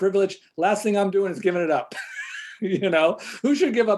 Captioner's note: chuckles